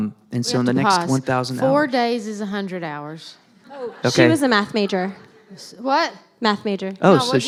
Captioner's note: laughter